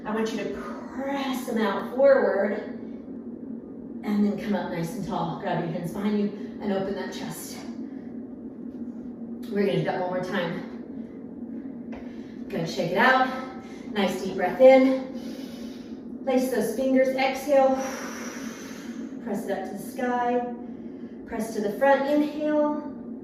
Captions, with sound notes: I want you to press 'em out forward and then come up nice and tall. Grab your hands behind you and open that chest. We're gonna do that one more time. Good, shake it out, nice deep breath in. (inhales slowly) Lace those fingers, exhale. (exhales sharply) Press it up to the sky. Press it to the front, inhale.